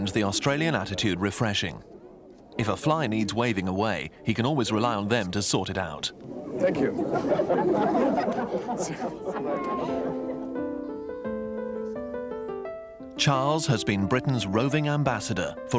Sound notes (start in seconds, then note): 6.2 audience laughing; 9.4 soft piano music